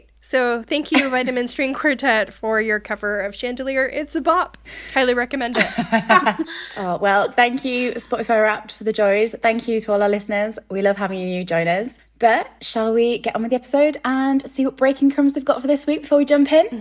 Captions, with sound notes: So thank you Vitamin String Quartet for your cover of 'Chandelier.' It's a bop. Highly recommend it. (laughing) Oh, well, thank you Spotify Wrapped for the joys. Thank you to all our listeners. We love having you join us. - But, shall we get on with the episode and see what breaking crumbs we've got for this week before we jump in?